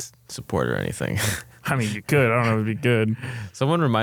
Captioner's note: laughs